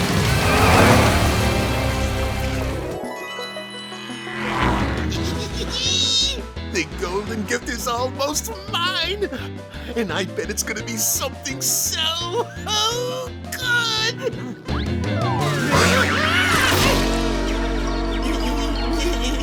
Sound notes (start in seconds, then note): 5.1 giggling; 15.4 screaming